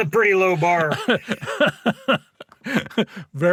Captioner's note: laughing